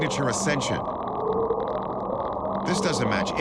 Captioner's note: mysterious sounds vibrating